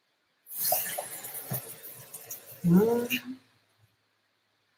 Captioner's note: water trickling